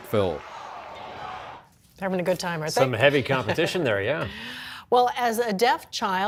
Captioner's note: cheers